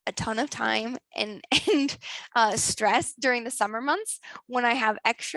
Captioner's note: laughs